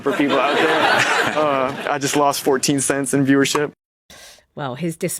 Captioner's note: laughing